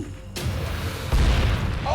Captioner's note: explosion